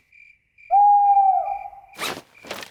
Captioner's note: hooting